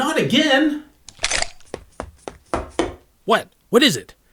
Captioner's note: footsteps